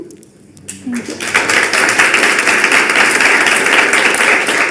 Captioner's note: audience clapping